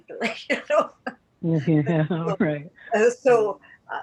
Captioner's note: laughs